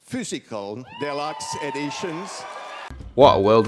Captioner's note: crowd cheers